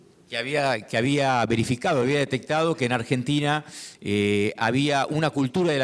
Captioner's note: speaking in foreign language